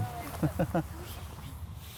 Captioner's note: laughs